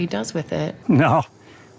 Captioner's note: chuckles